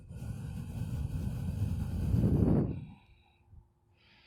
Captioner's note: exhales deeply